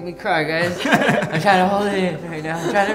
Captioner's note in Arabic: يضحك